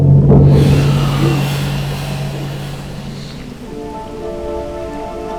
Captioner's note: Anton gasps; slow synth music